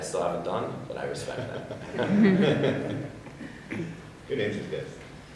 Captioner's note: people laughing